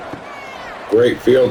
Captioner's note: crowd Noises